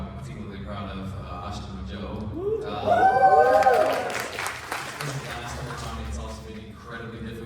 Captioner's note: applause